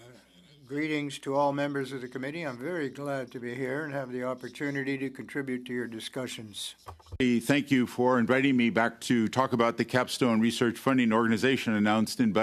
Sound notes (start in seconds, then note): 3.5 speaking French